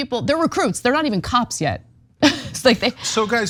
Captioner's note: laugh